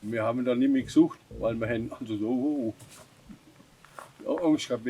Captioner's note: speaking German